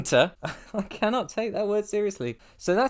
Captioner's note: laugh